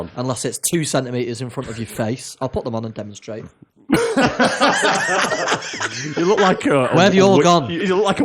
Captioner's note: laughter